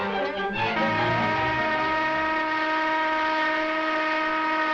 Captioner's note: light dramatic music continues; alarm rings